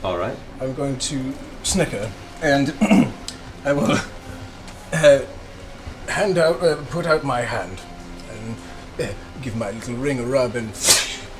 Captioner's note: laughs